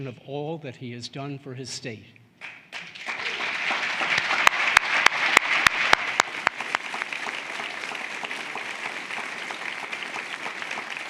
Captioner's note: applause